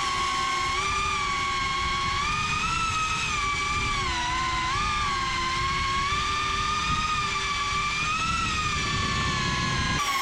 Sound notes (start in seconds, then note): 0.0 drone whirring